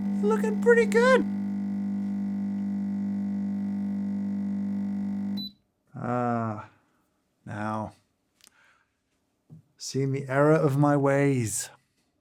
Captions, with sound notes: Looking pretty good. (machine whirs) (beep) Ah. Now, seeing the error of my ways.